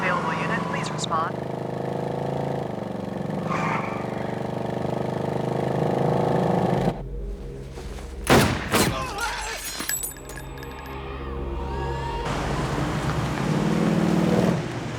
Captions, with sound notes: Any available unit, please respond. (tires squealing) (firing) (man yelping)